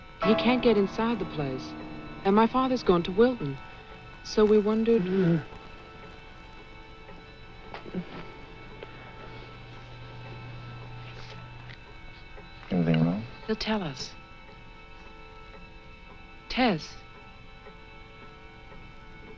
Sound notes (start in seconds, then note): 5.3 Mr. Towman grumbles; 9.1 eerie music